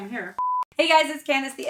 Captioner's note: beep